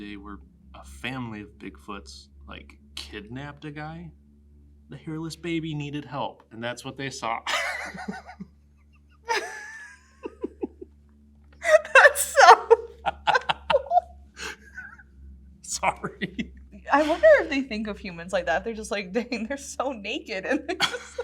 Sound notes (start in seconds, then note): 6.6 laughs